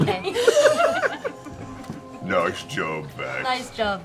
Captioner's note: laughter